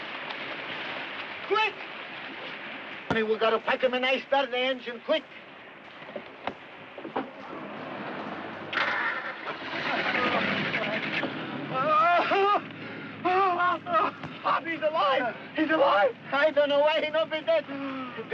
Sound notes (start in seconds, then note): 7.4 engine sputtering; 11.7 Mike wailing